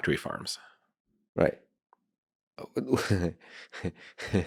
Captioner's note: laughing